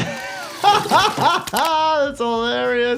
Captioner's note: hams plopping; laughing